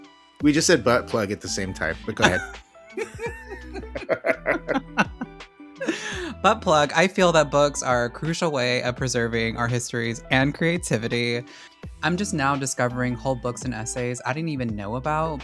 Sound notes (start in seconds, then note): 3.0 both cackle